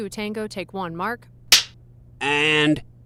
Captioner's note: clapper